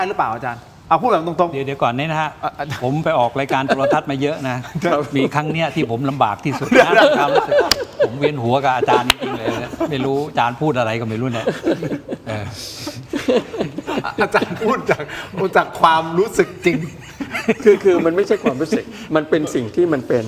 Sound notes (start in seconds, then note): 6.4 laughter